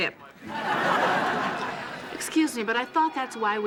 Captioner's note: audience laughing